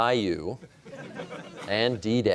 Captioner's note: laughter